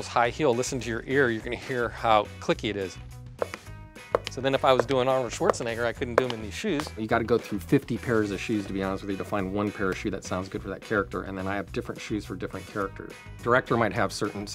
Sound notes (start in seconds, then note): 4.1 heel clicks